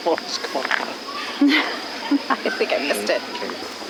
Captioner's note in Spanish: risas